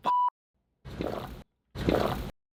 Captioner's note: drinks water loudly